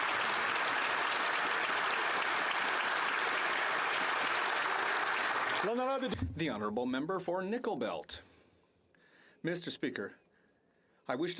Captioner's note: applause